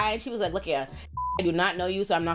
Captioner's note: beep